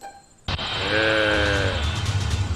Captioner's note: grunts